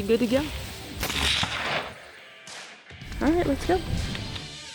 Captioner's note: rifle firing